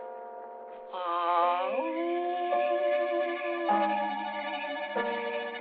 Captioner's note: howling